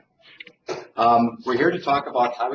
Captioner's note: laughter